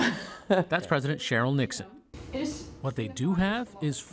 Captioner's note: laughter